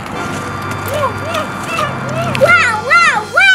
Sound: grunting

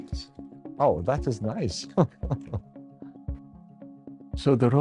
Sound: chuckles

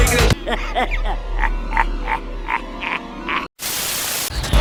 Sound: laughter

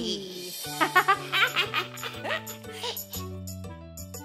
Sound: chuckling

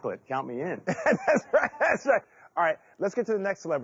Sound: laughing

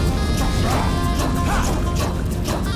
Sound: grunting

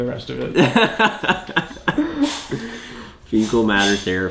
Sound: laughter

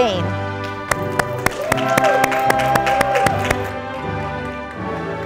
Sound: audience applauding

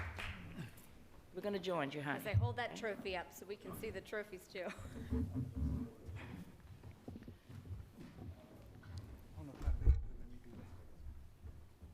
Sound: applause

